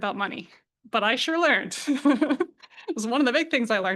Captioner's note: chuckles